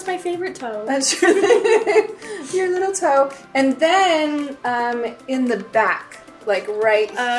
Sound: laughs

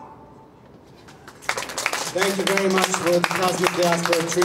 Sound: clapping

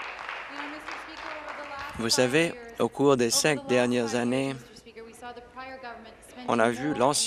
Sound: applause

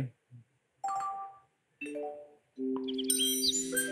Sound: cheerful blips

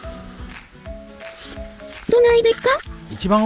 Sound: sound of eating

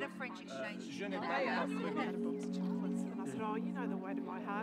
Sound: people chattering

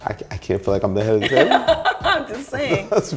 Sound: laughs

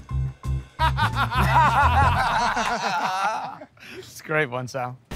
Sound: laughter

